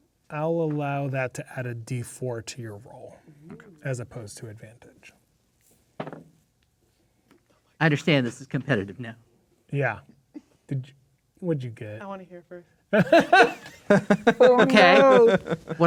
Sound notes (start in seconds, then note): 5.6 dice rolling; 12.9 laughing